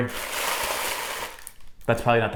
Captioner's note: tissue paper crinkling